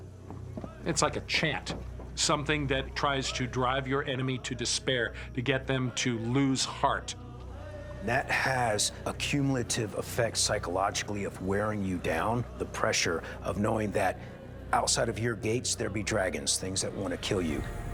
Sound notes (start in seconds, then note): none